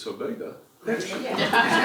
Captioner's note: laugh